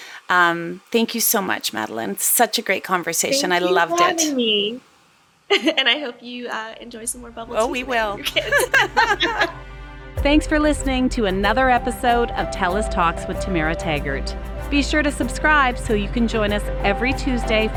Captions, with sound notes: Thank you so much, Madelyn, such a great conversation. I loved it. - Thank you for having me. (laughs) And I hope you enjoy some more bubble tea. - Oh, we will. (both laugh) Thanks for listening to another episode of Tellus Talks with Tamara Taggart. Be sure to subscribe, so you can join us every Tuesday